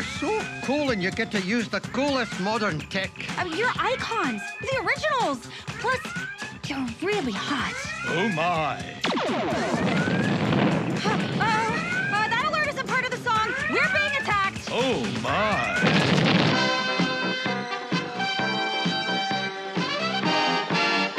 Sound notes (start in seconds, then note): 8.8 explosion and alarm blaring; 15.4 explosion